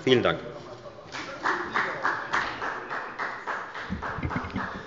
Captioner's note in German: Beifall bei der FDP